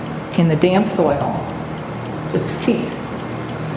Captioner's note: clock ticking